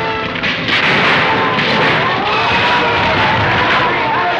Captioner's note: crashing